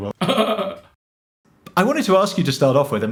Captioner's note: chuckles